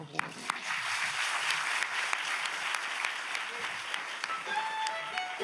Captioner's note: audience applauds